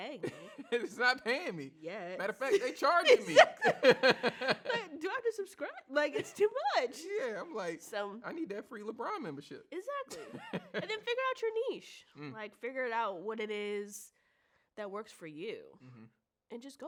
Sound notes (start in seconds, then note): 0.2 laughs; 2.5 laughs